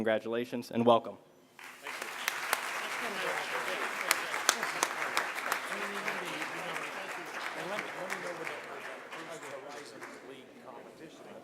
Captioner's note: applause